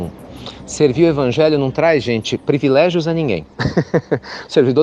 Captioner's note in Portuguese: Risos